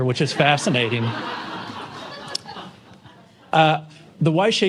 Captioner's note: laughter